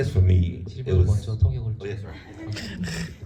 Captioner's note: speaks in foreign language